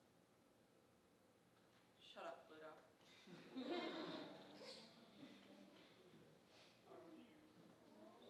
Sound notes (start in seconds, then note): 3.6 audience chuckling